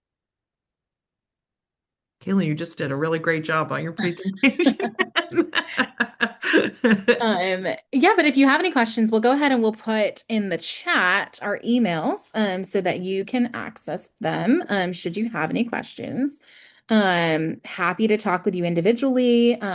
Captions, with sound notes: - Kaitlyn, you just did a really great job on your presentation. (laughs) - Yeah, but if you have any questions, we'll go ahead and we'll put in the chat our emails so that you can access them should you have any questions. Happy to talk with you individually